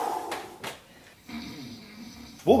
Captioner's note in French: ronflements